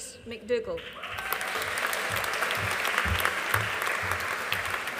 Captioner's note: audience applauding